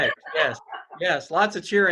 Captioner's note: laughs